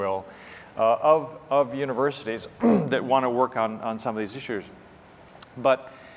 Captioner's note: cough